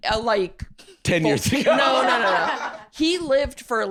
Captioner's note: laughs